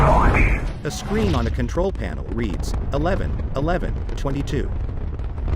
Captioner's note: rocket ignites